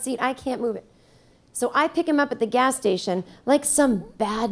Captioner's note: none